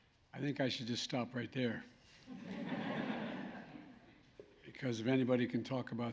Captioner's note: laughter